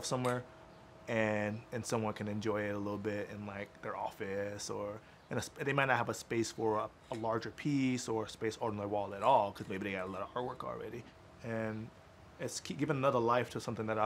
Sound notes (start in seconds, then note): none